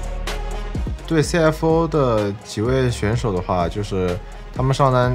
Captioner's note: Breathe